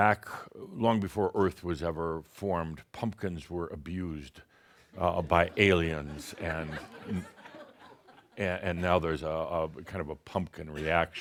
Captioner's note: some chuckles